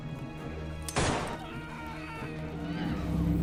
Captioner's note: gunfire pops; man screams; unsettling tones